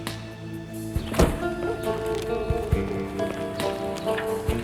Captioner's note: sighs; door thudding